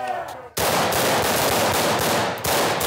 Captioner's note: gunshots